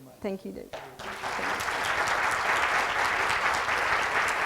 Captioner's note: audience applauds